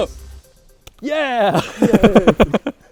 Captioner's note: laughing